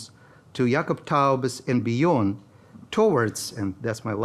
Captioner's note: speaking in foreign language